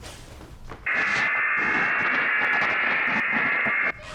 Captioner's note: buzzing